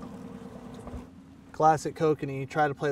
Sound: boat engine idling

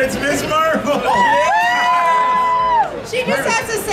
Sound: audience cheering

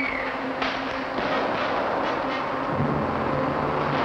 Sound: screaming; guns shooting

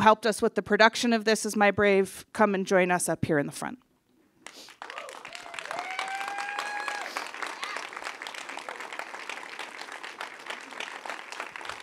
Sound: applause

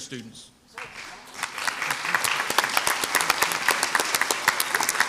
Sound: crowd applauds

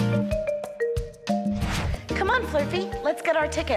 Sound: air whooshing

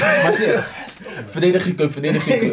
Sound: whispers

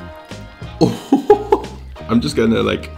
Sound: laughs

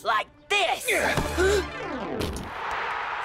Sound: Cozmo gasping; Vector grunting; crowd cheering

